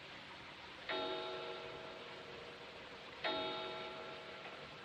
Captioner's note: clock Chiming